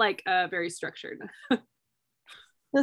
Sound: laughter

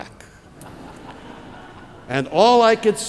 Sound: laughter

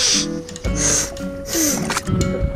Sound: blows nose; nose blowing

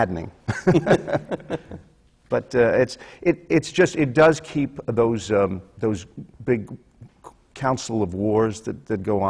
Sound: laughter

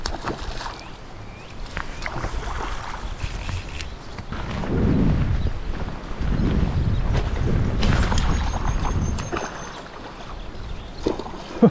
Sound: water splashing

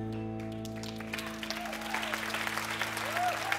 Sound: cheers and applause

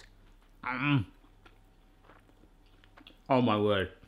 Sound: chews

